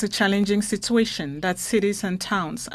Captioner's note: speaking French